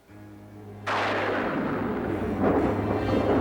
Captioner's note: thunderclap